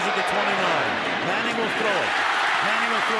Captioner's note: cheering